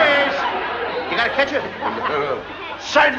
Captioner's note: laughter